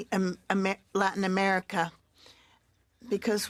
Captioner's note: speaking French